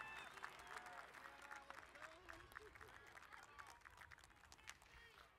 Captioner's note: crowd cheering and applauding